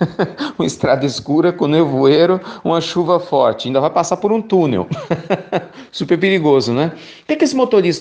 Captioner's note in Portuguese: risos